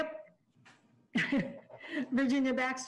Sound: chuckles

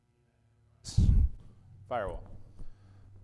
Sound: microphone popping

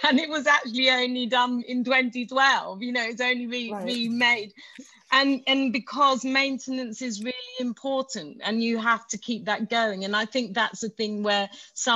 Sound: laughs

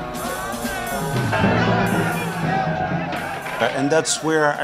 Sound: mob yelling

